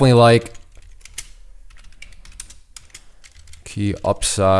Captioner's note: typing